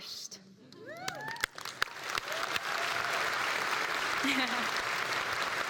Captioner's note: laugh; applause